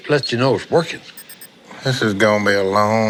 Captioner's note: ADR beeps